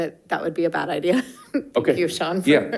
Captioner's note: laughing